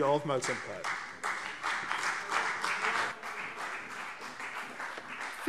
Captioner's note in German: Beifall CDU und BÜNDNIS 90/DIE GRÜNEN - Zuruf SPD